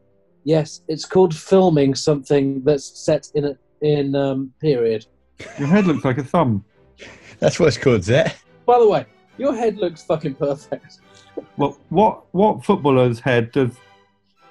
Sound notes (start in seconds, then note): 7.0 sniggering